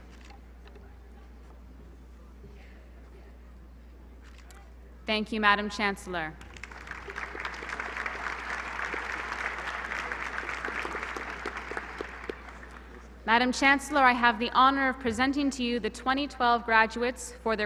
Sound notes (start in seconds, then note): 6.4 applause